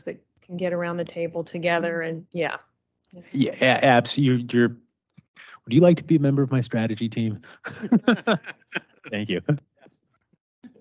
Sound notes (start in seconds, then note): 8.0 both laugh